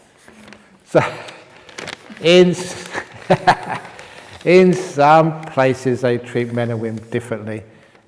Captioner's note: chuckles